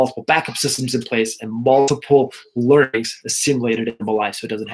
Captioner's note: audio skips